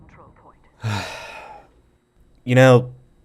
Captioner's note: sigh